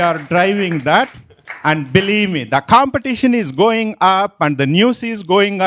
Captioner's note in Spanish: Aplausos